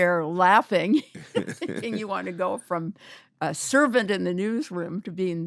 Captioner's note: laughter